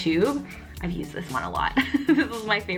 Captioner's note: giggles